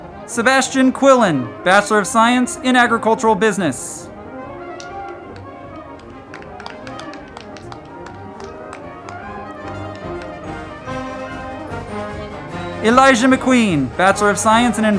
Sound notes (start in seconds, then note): 4.7 crowd clapping; 5.1 band music